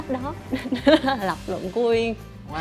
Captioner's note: giggle